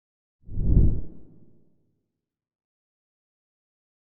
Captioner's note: logo whooshing